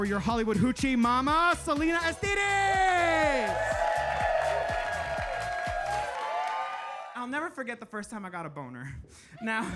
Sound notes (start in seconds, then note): 2.2 audience applauding and cheering